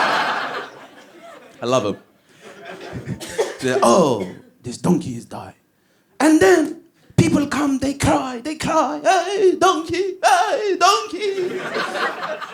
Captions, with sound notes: I love him. 'Ohh, this donkey died'. 'And then, people come, they cry, they cry *wails* Aye donkey! Aye donkey!'